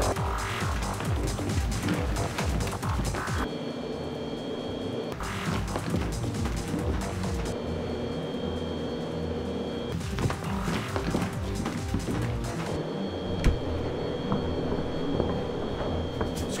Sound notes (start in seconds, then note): 7.9 dramatic music; 7.9 machinery sounds